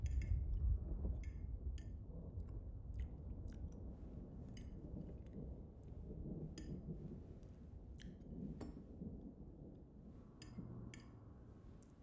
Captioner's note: cutlery clinks plate, noisy chewing